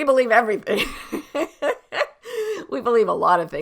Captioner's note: laughs